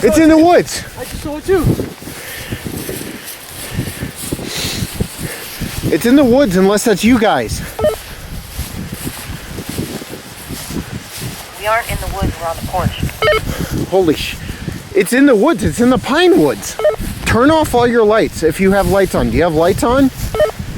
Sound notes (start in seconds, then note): 9.5 wind gusting; 13.4 walkie talkie bleeps